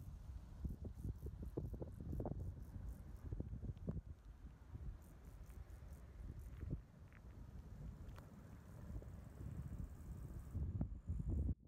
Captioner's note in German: Windgeräusche